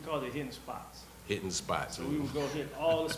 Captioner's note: laughs